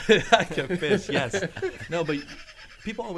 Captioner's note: men laughing